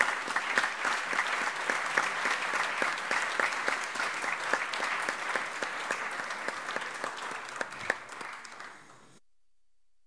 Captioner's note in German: Allgemeiner Beifall